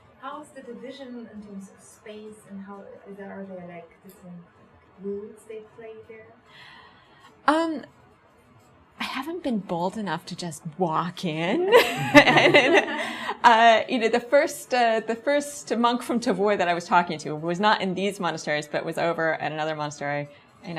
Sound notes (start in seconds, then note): 11.7 laughs; 11.8 audience laughs